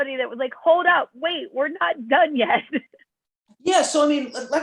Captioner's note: laughter